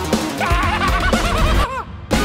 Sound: mad cackling

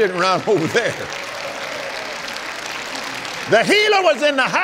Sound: applauds

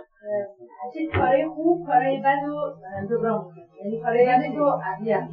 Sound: speaking Farsi

